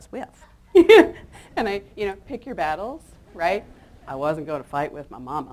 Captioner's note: laughs